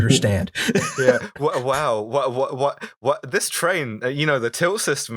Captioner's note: laughter